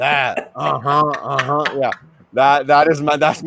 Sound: laughing; Tonya laughing

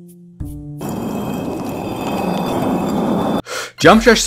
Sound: concrete scraping

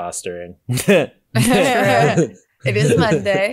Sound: all laugh

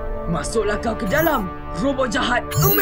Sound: Mechanizer beeps

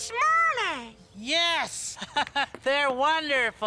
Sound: laughs

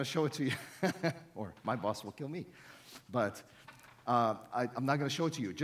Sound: laughs

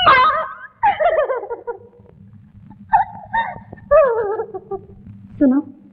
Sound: wailing

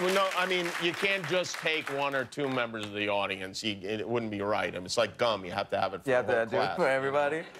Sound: cheers and applause

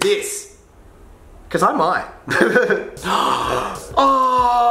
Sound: laughs

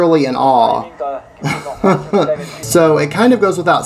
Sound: laughs

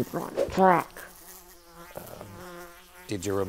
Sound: fly buzzing

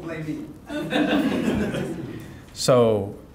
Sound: audience laughing

